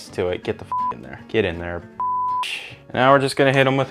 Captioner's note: beep